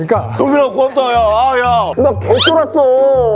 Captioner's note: crying